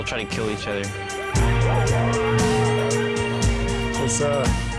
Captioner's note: dogs barking